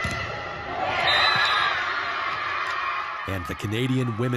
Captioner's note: crowd cheers